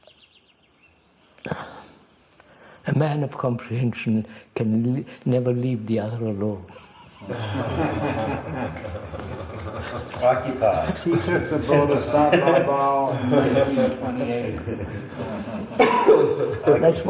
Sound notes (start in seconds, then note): 8.3 laughs; 9.3 laughter